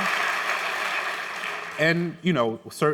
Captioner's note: applause